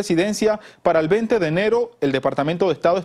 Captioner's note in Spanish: habla en ingés